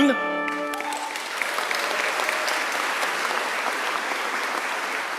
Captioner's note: audience applauds